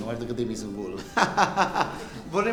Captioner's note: laughing